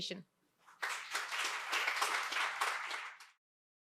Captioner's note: audience applauding